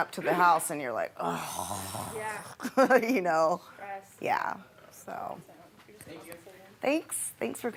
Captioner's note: groaning